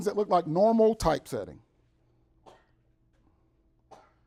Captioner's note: sneezing in background